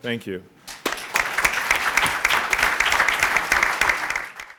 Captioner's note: applause